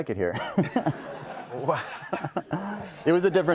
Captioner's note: laughter